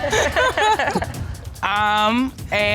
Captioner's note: all laughing